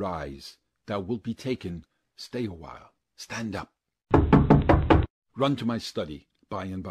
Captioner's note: knocking